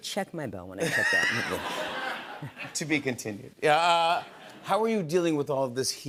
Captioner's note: laughter